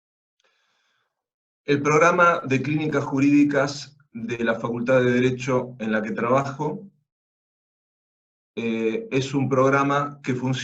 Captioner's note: Spanish